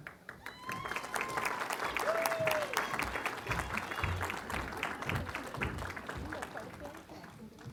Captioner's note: applause